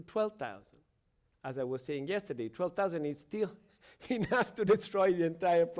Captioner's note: chuckles